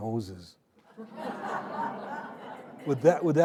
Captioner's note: audience laughing